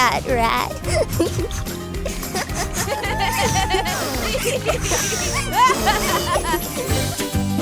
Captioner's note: laughter